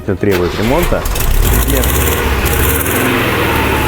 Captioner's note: starting car engine